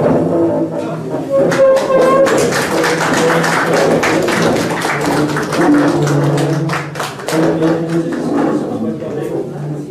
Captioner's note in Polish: oklaski